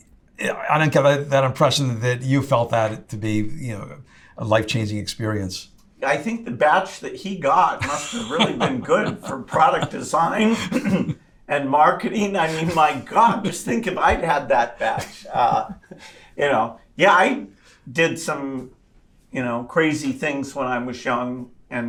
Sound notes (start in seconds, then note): 7.6 laughs